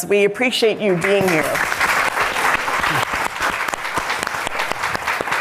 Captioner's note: all applauding